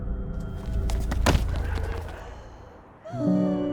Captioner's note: face being kicked